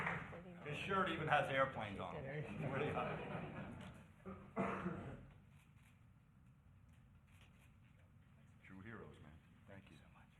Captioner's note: applause